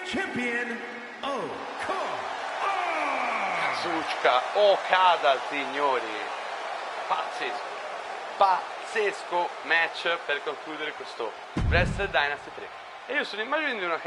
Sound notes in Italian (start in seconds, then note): 2.0 urlo